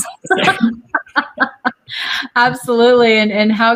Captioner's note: all laugh